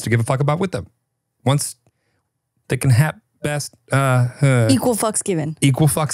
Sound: stammers

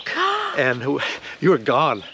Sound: gasping surprisingly

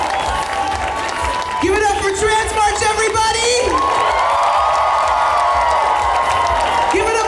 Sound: audience cheers; cheers

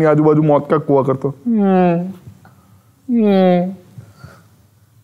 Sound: Mimicking Raako the Mosquito

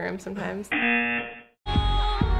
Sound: buzzer

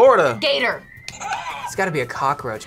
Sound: buzzer rings

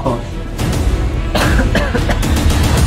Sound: coughs

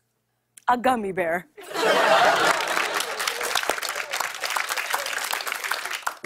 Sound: laughter and applause

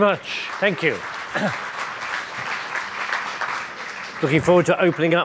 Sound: audience applauding

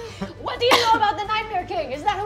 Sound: bad French accent

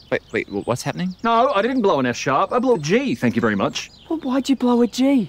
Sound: none

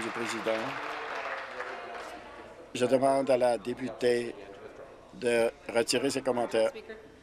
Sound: applause

